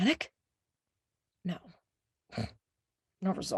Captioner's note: snorting